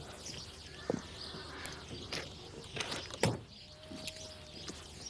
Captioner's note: birds chirping